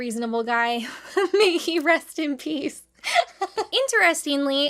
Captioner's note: laughing